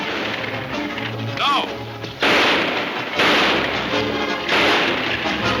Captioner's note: gunshots banging